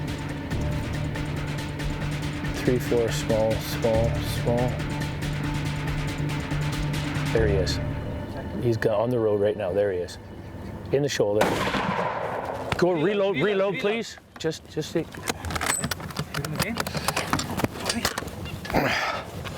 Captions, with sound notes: three, four, small, small, small. There he is. He's on the road right now. There he is. In the shoulder. (gun fires) Go reload. Reload, please. Just, just see. (gun reloading and cocking)